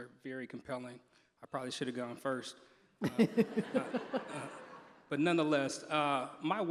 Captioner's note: laughter